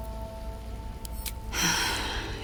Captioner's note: click; exasperated sigh